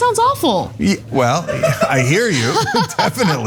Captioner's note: laugh